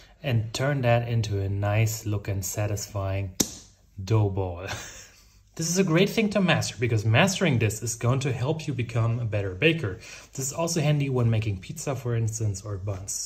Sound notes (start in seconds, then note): 3.4 smacking; 4.6 chuckling